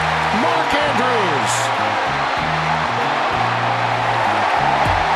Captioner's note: cheering